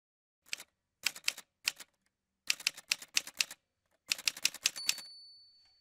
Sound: typewriter Sounds

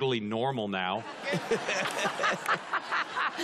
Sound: laughing

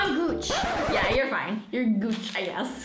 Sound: screeching

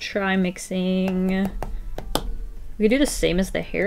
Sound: tapping fingers on desk

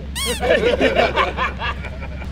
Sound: squeak; laughter

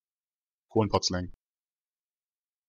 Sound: fast Pronunciation

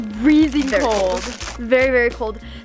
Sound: ice cracking

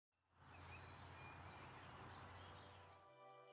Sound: birds chirping happily

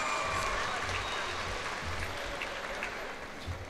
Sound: cheers and applause

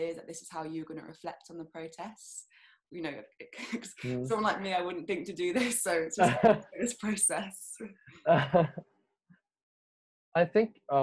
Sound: laughs

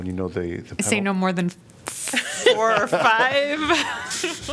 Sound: laughter

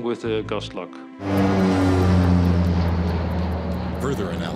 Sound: plane engine roars

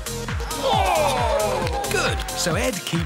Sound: cheers and gasps

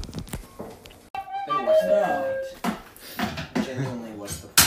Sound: chatter

